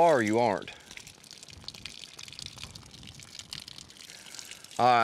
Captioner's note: water hose running